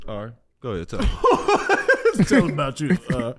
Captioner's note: laughs